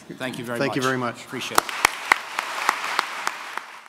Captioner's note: audience applauds